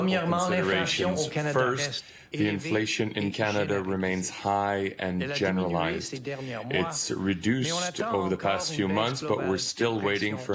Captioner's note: speaking French